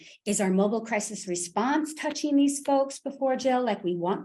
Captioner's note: none